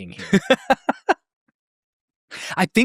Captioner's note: laughs